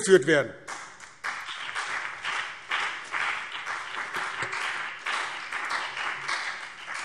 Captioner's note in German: Beifall BÜNDNIS 90/DIE GRÜNEN und CDU